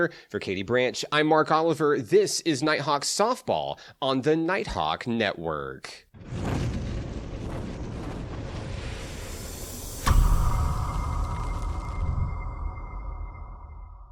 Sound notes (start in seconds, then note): 6.2 logo roaring